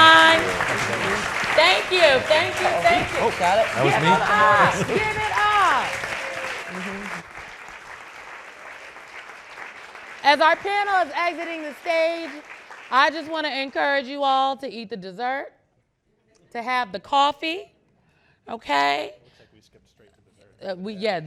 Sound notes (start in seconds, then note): 7.7 audience clapping